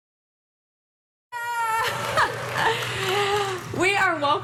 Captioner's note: host shouting